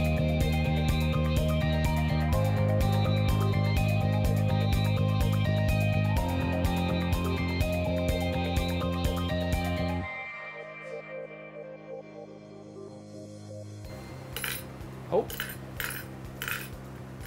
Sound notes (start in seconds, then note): 14.5 reel rattling